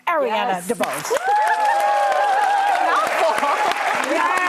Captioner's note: audience cheering